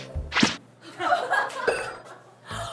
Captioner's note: thwack